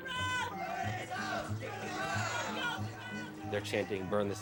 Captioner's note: crowd chanting